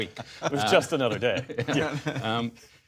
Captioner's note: laughter